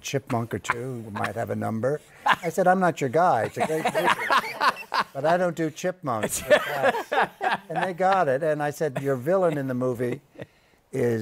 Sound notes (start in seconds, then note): 0.4 laughs; 6.2 laughter